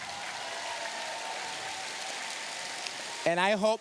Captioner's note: cheers, applause